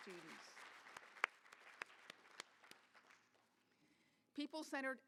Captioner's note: applause